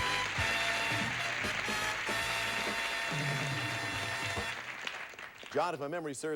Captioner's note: audience applauding